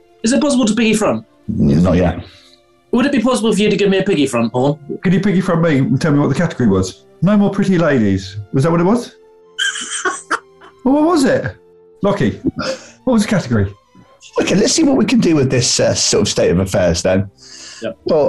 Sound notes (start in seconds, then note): 9.6 laughing